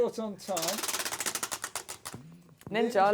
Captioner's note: ratcheting